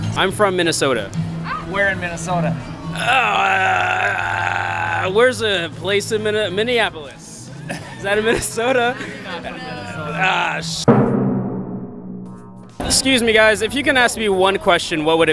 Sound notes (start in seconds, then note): 7.5 laughter